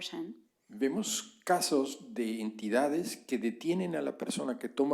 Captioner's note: spanish